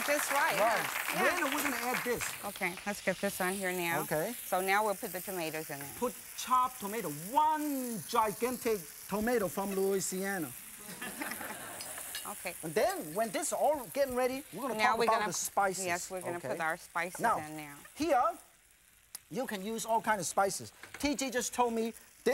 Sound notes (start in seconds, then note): 10.8 laughter; 10.9 crowd